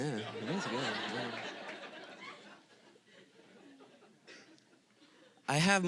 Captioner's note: audience laughing